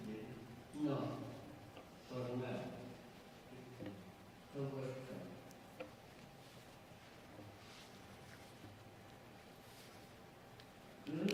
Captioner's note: speaking spanish